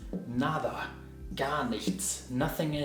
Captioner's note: speaks in foreign language